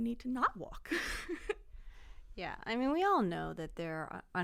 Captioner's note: laughter